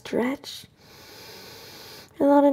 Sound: slowly inhales

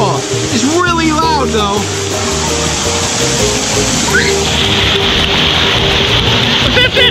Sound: water splashes

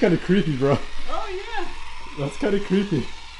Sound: none

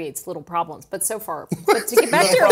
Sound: laugh

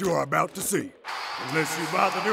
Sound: crowd cheers

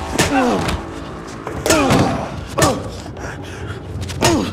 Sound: baton striking; victim grunting; baton striking; baton striking; victim groaning

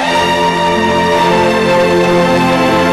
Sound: sobbing

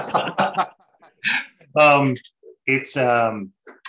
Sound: laughs

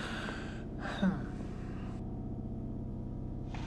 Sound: sighs

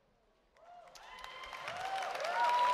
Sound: cheers and applause

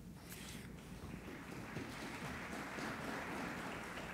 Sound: applauding

